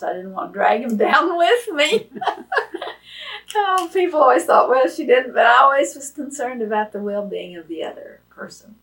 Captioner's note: laughs